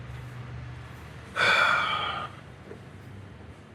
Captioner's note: he sighs